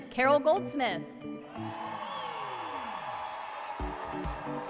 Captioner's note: applause and cheering